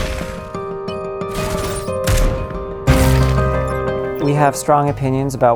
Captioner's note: video game sound effects